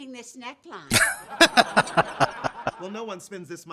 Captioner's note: laughing